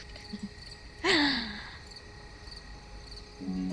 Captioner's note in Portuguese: Verônica ri